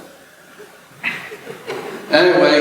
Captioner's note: laughter